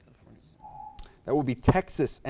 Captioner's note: alarm echoes